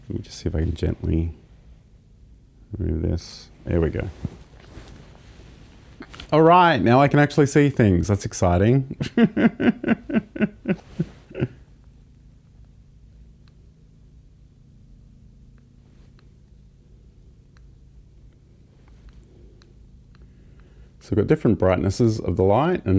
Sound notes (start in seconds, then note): 9.0 laughs